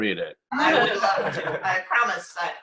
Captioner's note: laughter